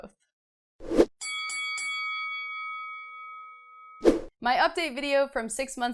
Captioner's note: bell ringing